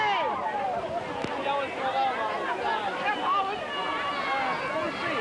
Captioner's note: lively chatter